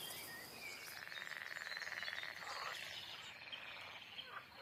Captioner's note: frogs croaking